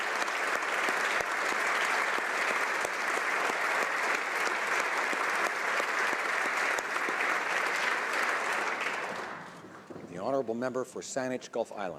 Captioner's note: applause